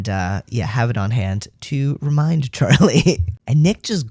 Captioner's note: laugh